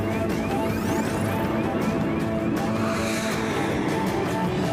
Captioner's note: vehicle swooshing